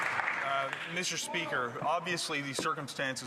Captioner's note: some Applause